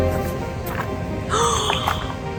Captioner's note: gasp!